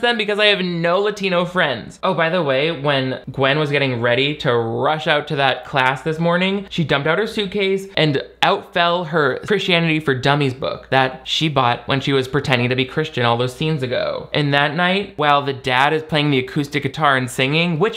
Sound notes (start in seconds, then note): none